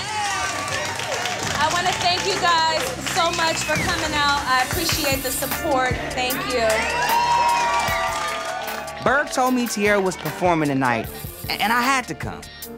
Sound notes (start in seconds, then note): 0.0 crowd cheering; 6.2 audience cheering